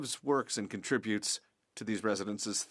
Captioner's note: speaking French